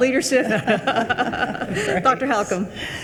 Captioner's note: attendees chuckling